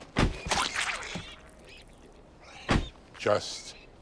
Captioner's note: squish